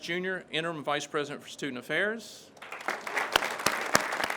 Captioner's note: crowd claps